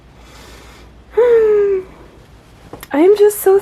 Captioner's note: high-pitched excitement noise